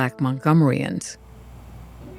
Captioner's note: soundbite of archived recording